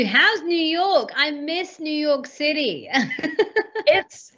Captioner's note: laughs